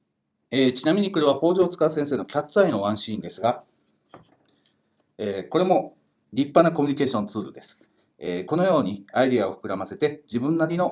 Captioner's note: speaking Japanese